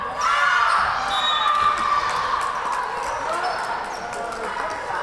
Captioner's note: whistle blowing